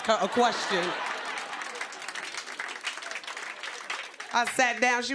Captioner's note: laughter